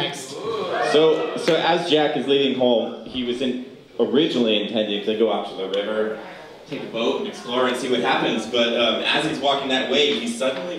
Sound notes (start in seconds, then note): none